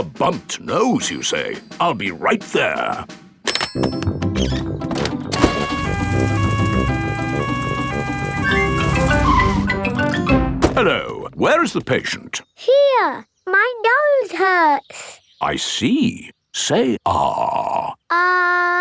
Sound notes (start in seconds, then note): 5.4 siren wails